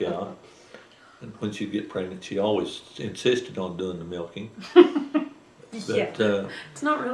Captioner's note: laughter